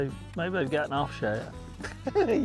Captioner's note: people laughing